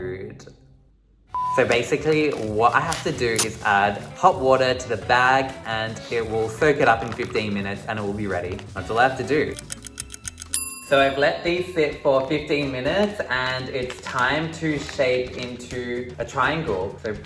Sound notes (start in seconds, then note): 9.5 clock ticking